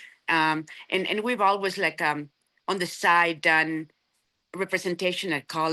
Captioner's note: none